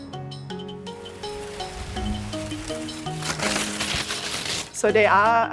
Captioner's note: leafs crushing